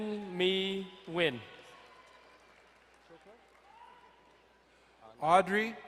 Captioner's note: distant cheering